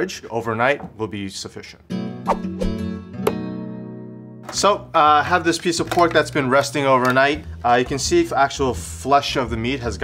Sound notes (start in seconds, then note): 1.9 bright music; 2.3 air whooshing